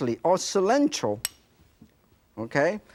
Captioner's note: spoon clanking